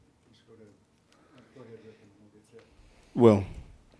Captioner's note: murmuring